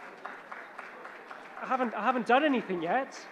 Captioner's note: audience applauding